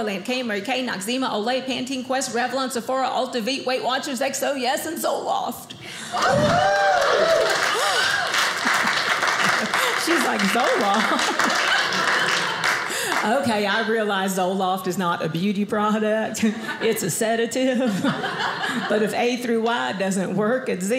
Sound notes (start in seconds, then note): 6.1 audience cheers; 7.8 audience applauding; 11.3 audience applauding